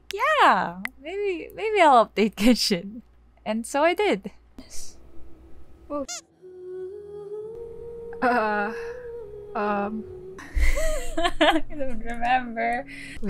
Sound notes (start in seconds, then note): 5.9 squeak for PG purposes; 10.5 panicked laughter